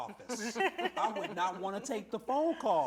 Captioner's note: laughter